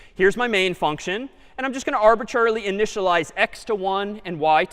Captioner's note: none